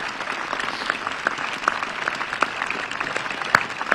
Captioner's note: applause